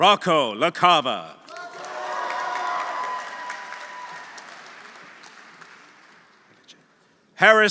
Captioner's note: audience applauding; audience cheering